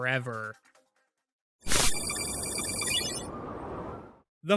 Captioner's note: digital typing